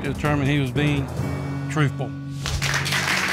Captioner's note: audience applauds